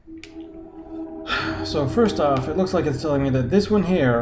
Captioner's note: sighs